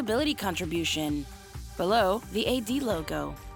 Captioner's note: speaking Spanish